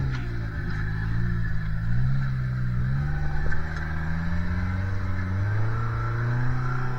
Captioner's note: engine revving